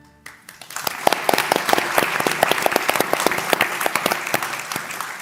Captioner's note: applause